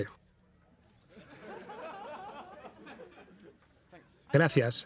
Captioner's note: audience laughing